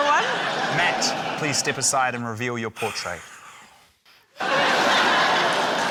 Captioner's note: laughter; exhales; laughter, applause